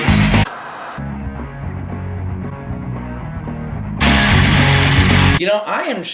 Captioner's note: static buzzing; upbeat rock music